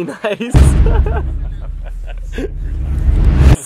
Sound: laughing; laughing

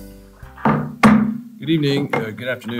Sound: gavel bangs

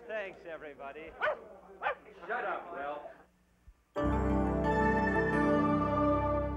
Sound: Muffy barks

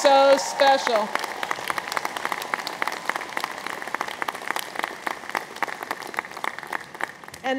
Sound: audience applauds

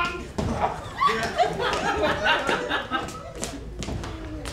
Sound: audience laughs

